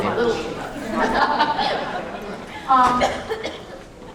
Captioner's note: laughter